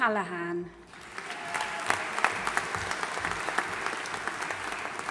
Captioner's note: audience applauding